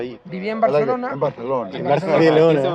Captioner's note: Spanish accent